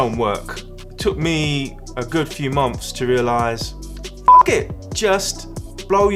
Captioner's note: beep